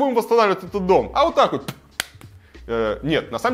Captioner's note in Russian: щелчок губами